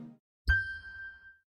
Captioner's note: chime sound